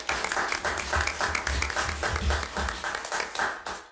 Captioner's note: gallery applauds